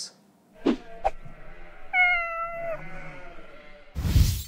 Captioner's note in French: cris d'animaux domestiques